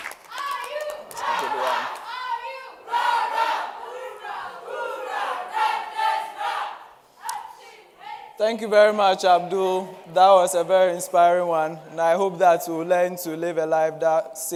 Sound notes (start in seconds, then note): 1.1 audience chanting